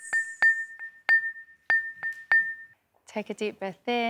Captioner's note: dings